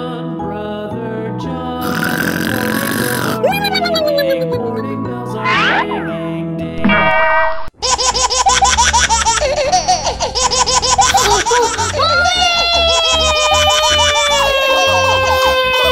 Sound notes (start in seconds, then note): 1.8 snoring; 7.4 door slams; 7.8 baby laughing